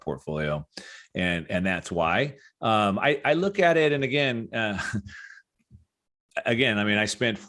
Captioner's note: chuckles